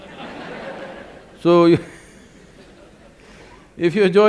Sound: laughter; laughs

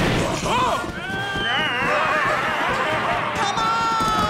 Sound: screaming

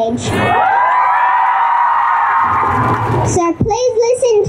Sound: cheering

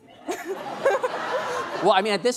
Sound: laughing

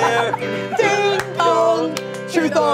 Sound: all laughing; all clapping

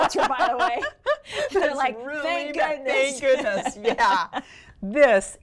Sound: laughter

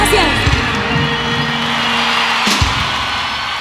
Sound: gritos del publico

